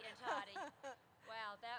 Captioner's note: chuckles